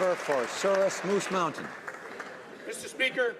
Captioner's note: some Applause